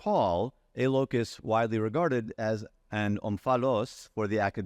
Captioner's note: faintly speaking